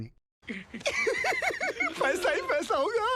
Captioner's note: laughs